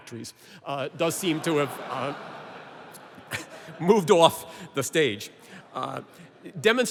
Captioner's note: laughter